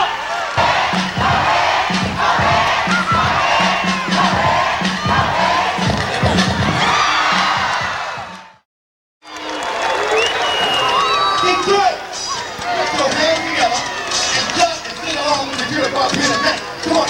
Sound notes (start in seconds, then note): 0.0 voiceover; 6.2 cheering